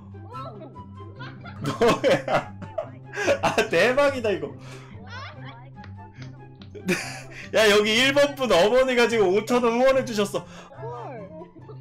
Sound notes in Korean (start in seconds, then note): 1.5 박장대소